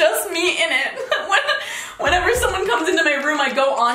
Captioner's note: giggling